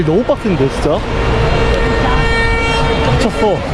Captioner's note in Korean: 내 마음을 표현해주는 경적소리